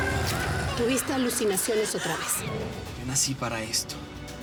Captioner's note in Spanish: Gritos